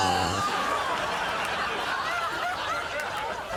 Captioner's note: exhaling aggressively